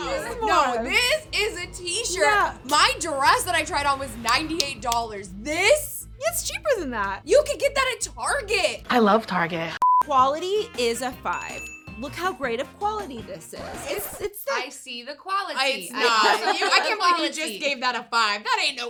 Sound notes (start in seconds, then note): 9.8 electronic beeping; 11.1 bell ringing; 13.6 record scratching